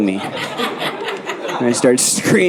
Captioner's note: audience laughing